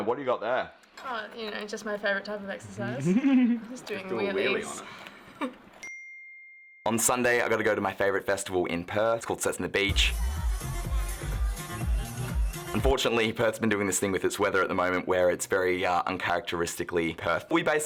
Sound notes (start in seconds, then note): 2.8 giggles; 5.8 dings; 9.9 electronic music